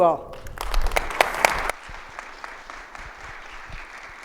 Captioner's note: audience applauds